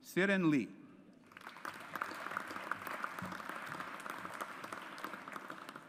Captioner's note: audience applauds